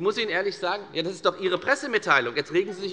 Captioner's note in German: Zurufe von der CDU und dem BÜNDNIS 90/DIE GRÜNEN